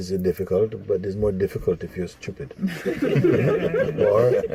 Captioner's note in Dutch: gelach